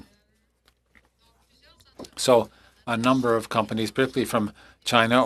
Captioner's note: speaking French